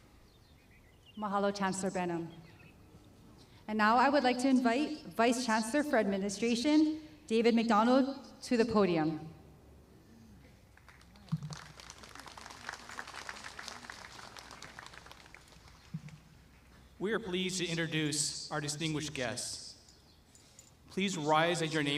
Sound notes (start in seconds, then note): 10.7 applause